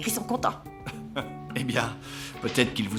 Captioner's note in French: rires